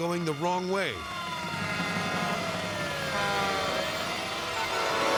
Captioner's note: horns honking